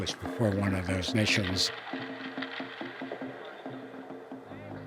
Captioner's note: ice rattling